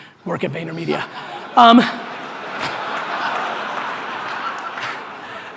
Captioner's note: audience laughter